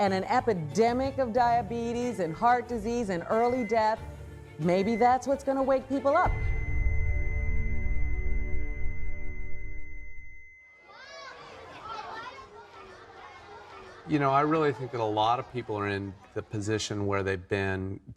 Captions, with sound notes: and an epidemic of diabetes, and heart disease, and early death, maybe that's what's going to wake people up. [beeping flatlines] [kids chattering] You know, I really think that a lot of people are in the position where they've been-